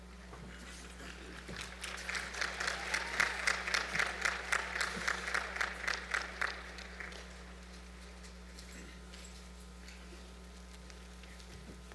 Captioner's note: applause